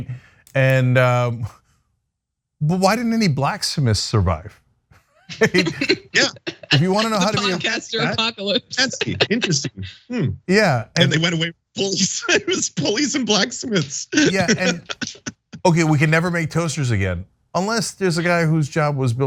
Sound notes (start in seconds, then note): 5.2 laugh